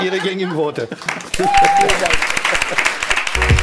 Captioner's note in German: Applaus und Lachen im Publikum